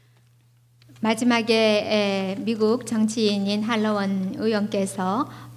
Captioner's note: speaking foreign language